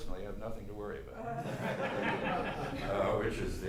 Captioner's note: laughter